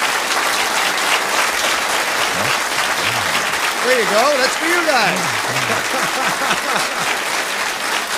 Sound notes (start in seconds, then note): 0.0 applause; 6.1 laughs; 6.6 applause